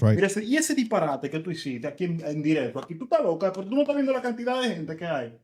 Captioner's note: speaking In Foreign Language